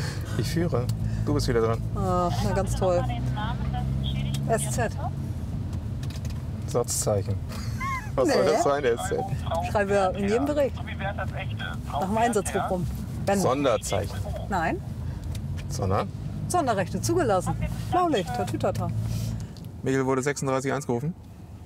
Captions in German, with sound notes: Ich führe. Du bist dran. Ah, na toll. SZ. Satzzeichen. (lacht) Nee. Was soll das sein? Schreiben wir in jedem Bericht. Nachm Einsatz. Sonderzeichen. Nein. Sondern? Sonderrechte zugelassen. Blaulicht. Tatütata. Michel, wurde 36-1 gerufen?